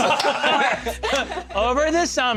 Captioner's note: laughter